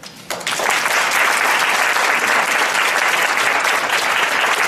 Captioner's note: audience applauds